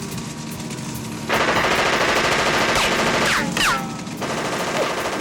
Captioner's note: gunshots popping